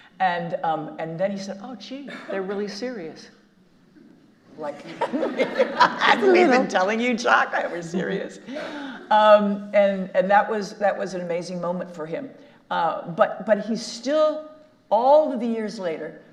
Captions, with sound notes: And, um... and then he said, "Oh, gee, they're really serious." (all laughing) Like we've been telling you, Jock, that we're serious. Um... and-- and that was-- that was an amazing moment for him. Uh... but-- but he still, all the years later,